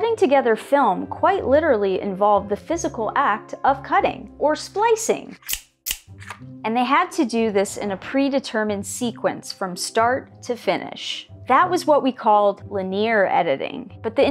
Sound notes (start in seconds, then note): 5.4 snipping sound, sadly not in proportion to these scissors